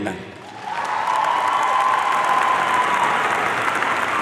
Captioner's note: audience cheering